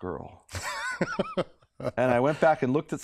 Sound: laughter

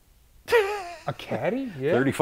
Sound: laughs

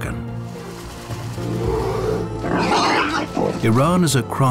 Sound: bear growls, boar squeal

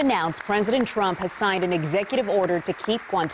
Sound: applause

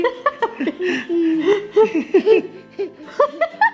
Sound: laughing

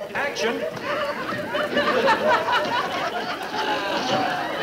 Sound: audience laughing

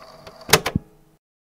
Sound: click

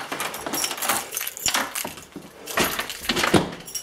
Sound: rattling

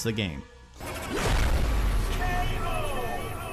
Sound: intense rumbling

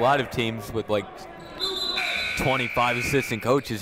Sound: buzzer ringing

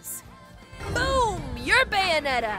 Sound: whooshing

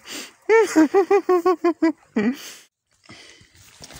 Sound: crying

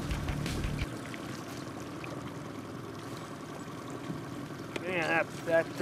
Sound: boat engine idling

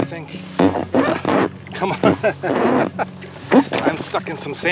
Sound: laughter

